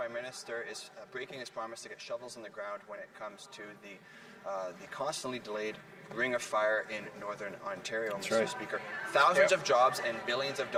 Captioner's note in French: voix de l'interprète